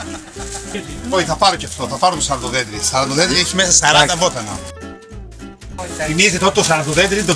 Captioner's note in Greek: γέλιο